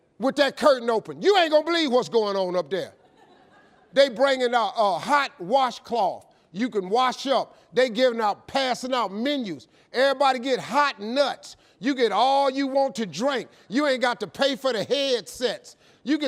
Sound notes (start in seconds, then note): 2.7 audience laughing